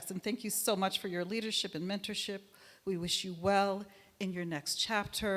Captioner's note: none